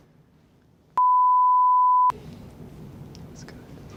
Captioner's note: beep